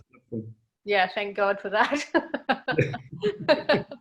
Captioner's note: laughs